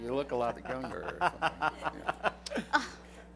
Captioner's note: laughter